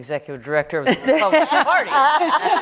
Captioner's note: laughter